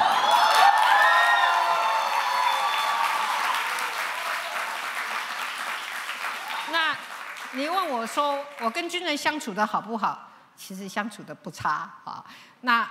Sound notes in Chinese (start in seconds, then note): 0.0 歡呼; 2.1 掌聲